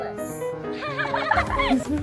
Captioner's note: children laughing